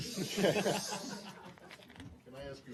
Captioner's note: laughter